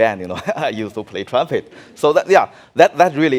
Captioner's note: laughing